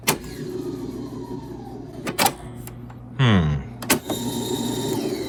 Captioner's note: tape recorder whirring